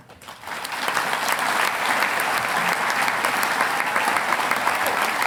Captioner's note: audience applauding